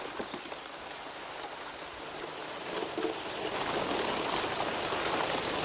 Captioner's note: rushing water